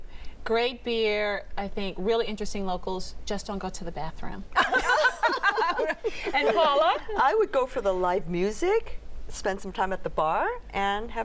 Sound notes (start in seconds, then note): 2.5 laughter